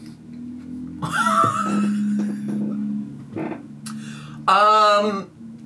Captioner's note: laughs